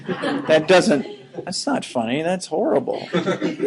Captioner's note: laughing